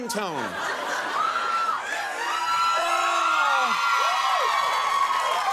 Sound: audience cheering and laughing

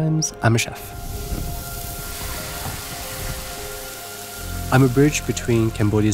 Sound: grill sizzling

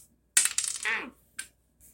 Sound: drops peg

